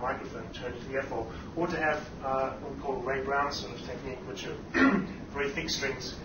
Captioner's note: clears throat